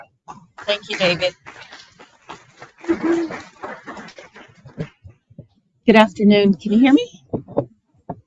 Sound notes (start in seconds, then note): 2.5 audience applauding